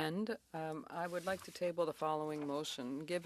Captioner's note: speaking French